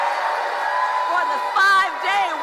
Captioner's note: applause; cheering